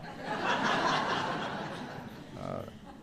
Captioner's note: laughter